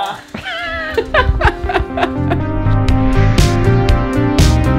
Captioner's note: laughing; laughs loudly; inspiring electronic music